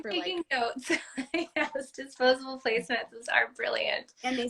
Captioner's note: laugh